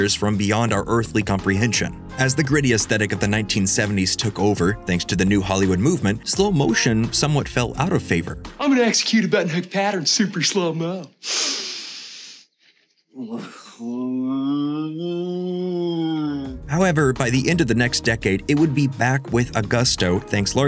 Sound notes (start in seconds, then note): 11.2 inhales; 13.1 moans